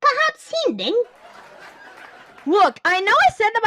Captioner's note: audience Laughter